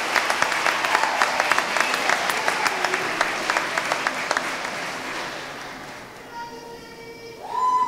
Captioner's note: applause